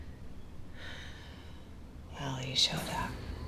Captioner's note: sighs